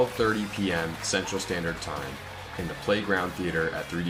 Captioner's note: audience applauds